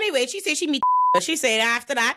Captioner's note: beep